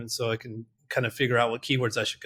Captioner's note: none